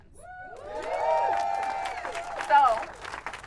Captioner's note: audience cheering